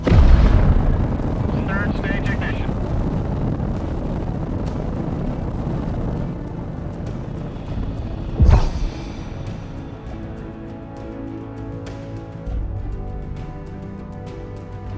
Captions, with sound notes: (engine blasting) Third stage ignition. (whoosh at separation) (dramatic music)